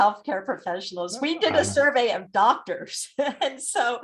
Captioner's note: laughs